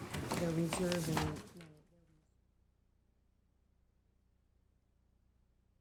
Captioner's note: people chattering faintly